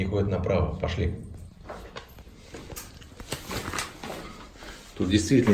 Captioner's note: sounds of footsteps